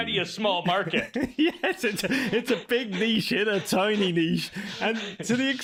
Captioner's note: laughs